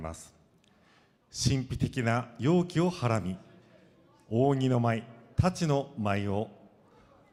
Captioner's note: speaking foreign language